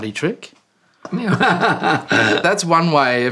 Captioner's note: laughing